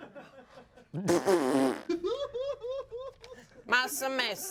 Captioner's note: laughs